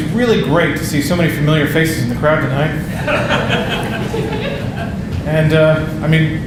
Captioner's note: audience laughing